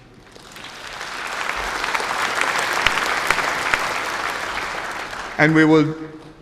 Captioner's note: applause